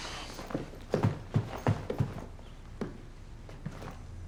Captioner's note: footsteps clomping